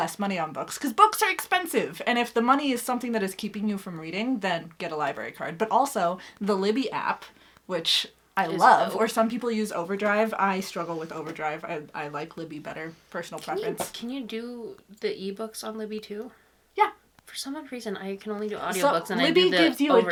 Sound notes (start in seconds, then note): none